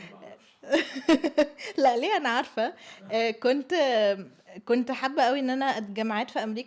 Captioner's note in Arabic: ضحك